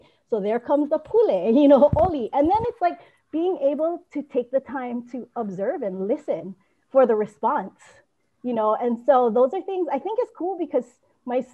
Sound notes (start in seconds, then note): none